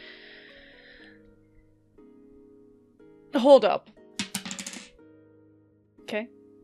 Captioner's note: dice clacks